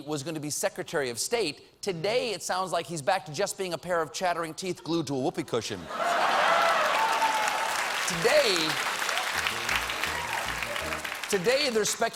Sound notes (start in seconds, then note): 3.3 applause; 3.3 laughter